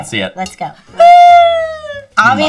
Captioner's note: gasping